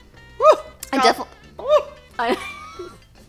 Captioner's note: screams softly; laughs